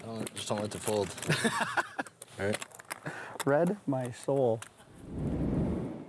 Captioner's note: laughing